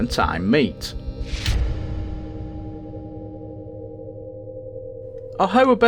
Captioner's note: sound FX